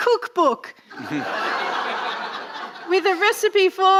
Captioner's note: audience laughing